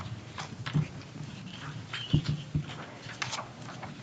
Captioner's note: papers rustle